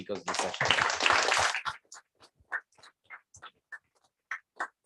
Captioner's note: applause